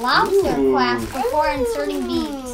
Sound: gasping

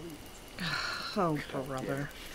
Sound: sigh

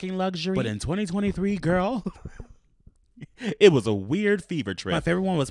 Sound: laughs

